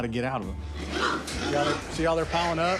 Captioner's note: hog snorting